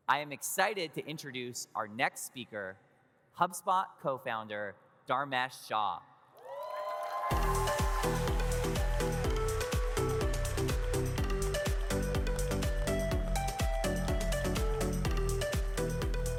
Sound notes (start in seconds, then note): 6.4 audience cheers; 7.3 upbeat music